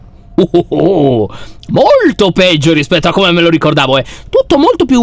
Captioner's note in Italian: risata eccitata